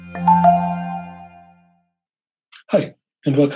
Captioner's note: musical door bell chyme